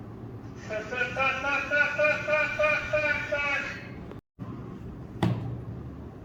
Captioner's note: laughs